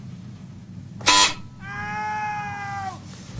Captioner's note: buzzer; screaming